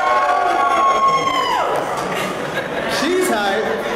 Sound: applause

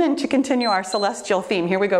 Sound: timer beeps

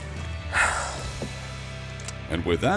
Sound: sigh

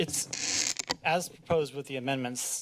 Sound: squeaking noise

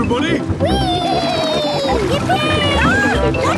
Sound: George giggles

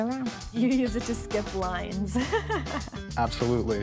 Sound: laughing

